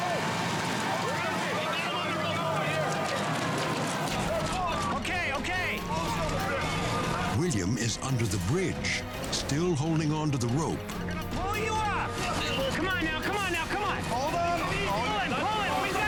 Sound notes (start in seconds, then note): 3.5 rescue workers yelling